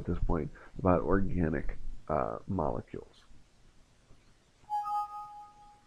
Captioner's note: notification